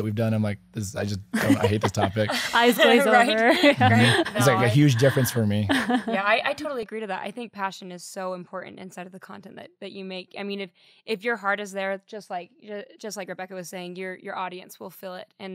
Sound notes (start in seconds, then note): 1.3 laughing